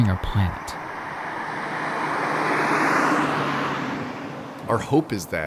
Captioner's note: vehicle engine drones